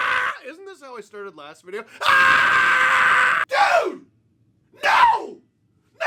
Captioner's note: scream continues